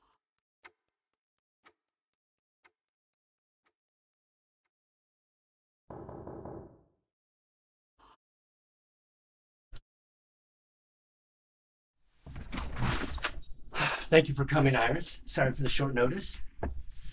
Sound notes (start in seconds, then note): 5.9 knock on door